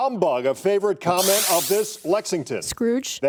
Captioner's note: buzzer